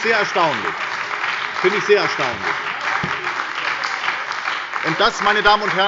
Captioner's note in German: Beifall bei der SPD und der FDP